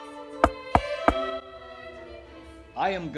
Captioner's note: sharp knock on a door